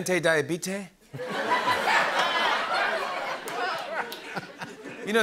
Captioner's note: laughter